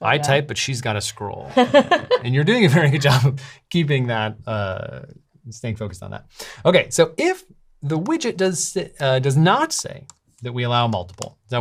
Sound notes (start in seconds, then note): 1.5 laughs